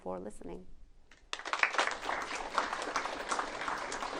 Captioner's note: applause